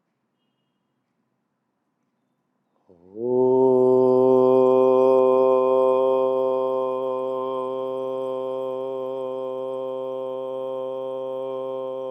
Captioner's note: chanting